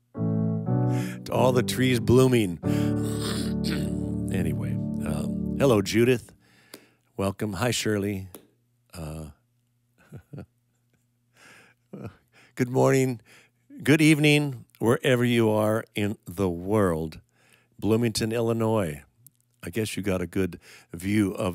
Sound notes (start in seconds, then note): 0.0 gentle music; 10.0 chuckling